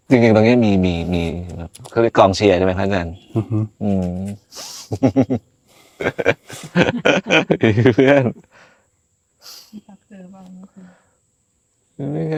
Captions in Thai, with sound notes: จริงๆตรงนี้มีมีเค้าเรียกกองเชียร์ใช่มั้ ครับอาจารย์อือฮึ อื [เสียงหัวเราะ] เพื่อน[เสียงถอนหายใจ] [เสียงสูดหายใจ]เธอเป่าไม่